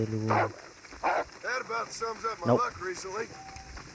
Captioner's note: cries of wolves; cries of wolves and horse